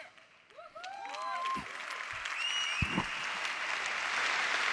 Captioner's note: audience applause and cheers